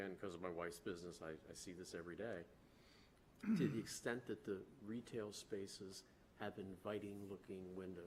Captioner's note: clears throat